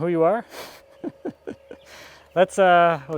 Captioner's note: laughing